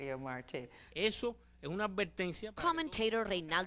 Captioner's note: speaking Spanish